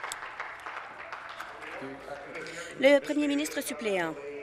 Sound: applause

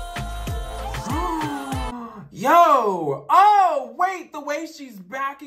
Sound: gasps

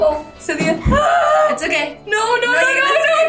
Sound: girl One Screeches

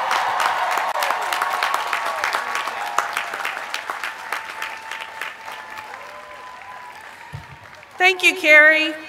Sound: cheers and applause

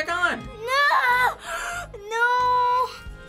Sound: gasp

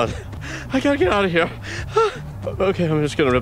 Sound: scared breathing

